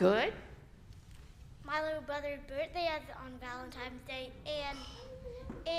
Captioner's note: young voice